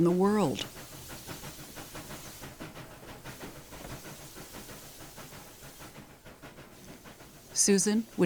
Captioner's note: training chugging away